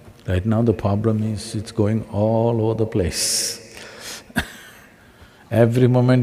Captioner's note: laughs